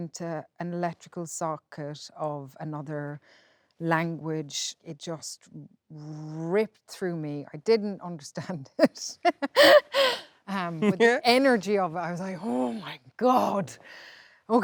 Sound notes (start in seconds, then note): 9.3 laughs